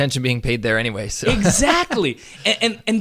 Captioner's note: laughs